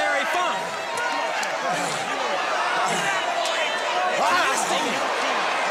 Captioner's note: crowd chatter